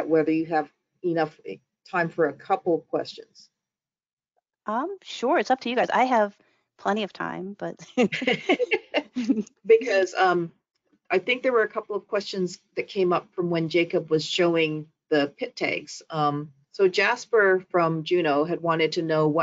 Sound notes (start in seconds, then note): 7.8 laughs